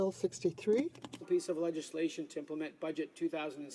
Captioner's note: speaking French